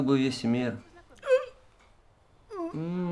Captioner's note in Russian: кряхтит